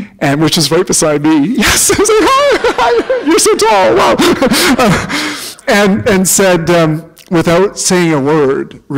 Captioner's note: laughter